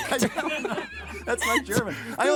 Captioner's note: all laughing